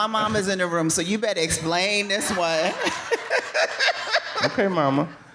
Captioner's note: laughing